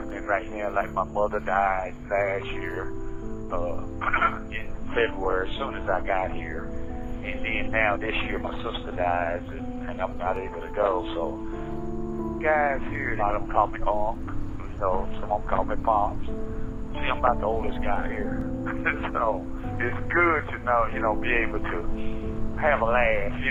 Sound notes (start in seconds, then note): 18.6 chuckles